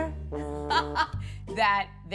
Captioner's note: laughs